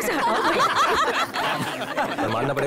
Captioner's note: Laughs